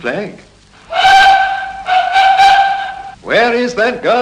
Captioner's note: train whistle